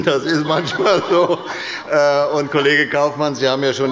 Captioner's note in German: Heiterkeit und Beifall bei der SPD